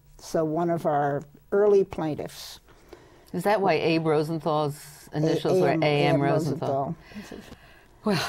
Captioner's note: sigh